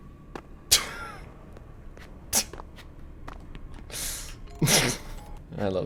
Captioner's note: laughs